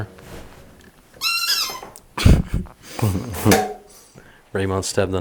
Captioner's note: A dog toy squeaks